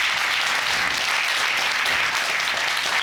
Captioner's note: audience applauds